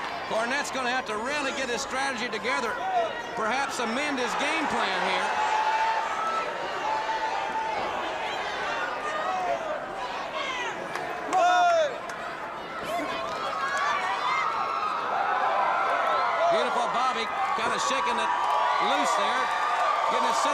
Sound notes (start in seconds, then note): 5.1 crowd cheering